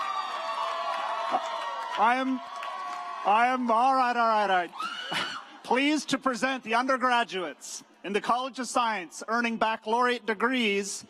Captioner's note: cheering